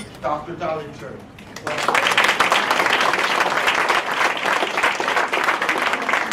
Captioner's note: applause